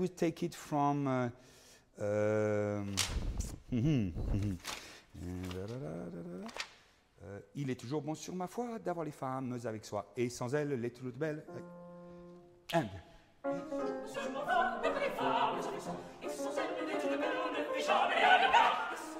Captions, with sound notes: Shall we take it from, (speaking in foreign language) (singing in foreign language)